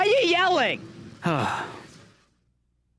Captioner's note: sigh